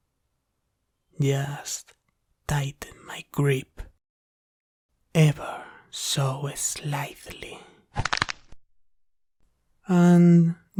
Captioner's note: sound of squeezing and crackling